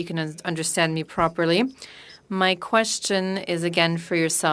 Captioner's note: speaking French